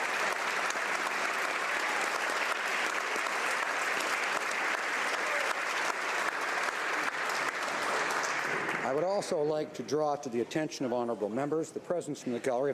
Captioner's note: applause